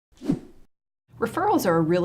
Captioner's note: whooshing sound